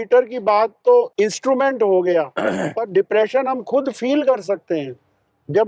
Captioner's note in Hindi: गला साफ़ करने की आवाज़